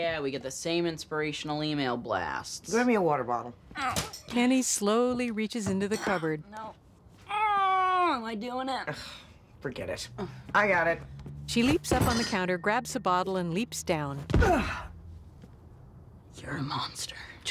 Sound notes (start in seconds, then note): 3.8 groaning; 7.3 strains; 14.4 grunts